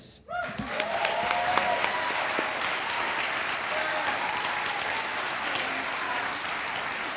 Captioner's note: audience cheering; audience applauding